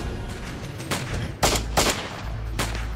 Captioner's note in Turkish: si̇lah sesleri̇